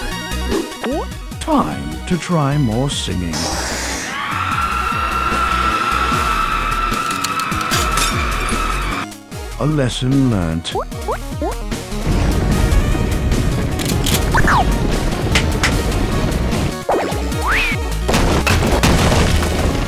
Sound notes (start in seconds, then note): 4.0 screaming; 4.3 singing